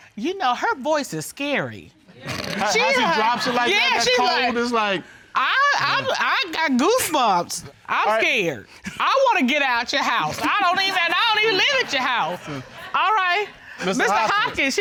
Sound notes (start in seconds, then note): 5.3 stammers